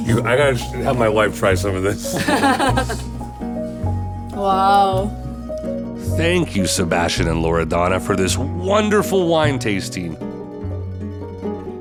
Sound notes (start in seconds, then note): 2.1 laughing; 3.2 soft music